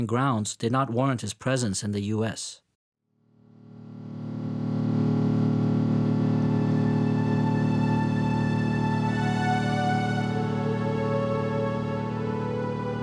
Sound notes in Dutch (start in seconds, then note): 4.0 vliegtuigmotor draait; 6.4 rustige instrumentale muziek